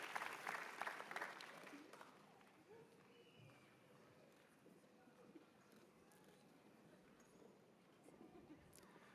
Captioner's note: cheers and applause